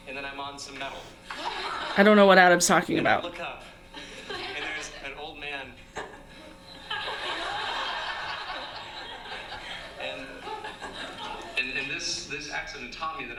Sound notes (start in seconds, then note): 5.9 audience laughing